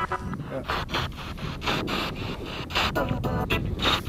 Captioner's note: radio noise from the spirit box